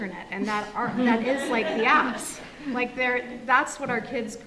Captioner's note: audience laughs